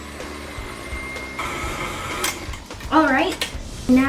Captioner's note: mixer whirring